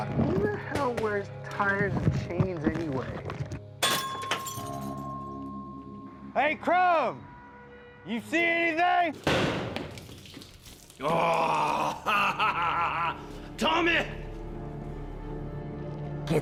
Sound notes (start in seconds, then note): 11.4 laughing